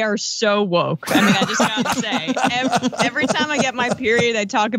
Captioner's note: laugh